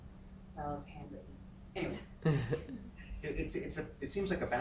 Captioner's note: man chuckling